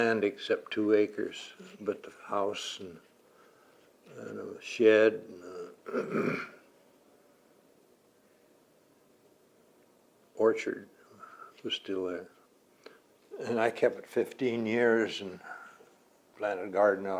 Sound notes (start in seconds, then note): 5.4 clears throat